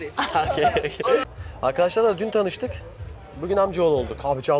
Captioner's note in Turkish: kahkaha